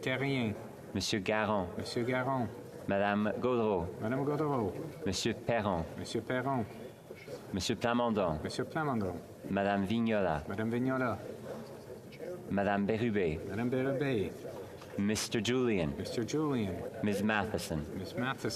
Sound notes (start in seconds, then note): 7.3 calling of recorded vote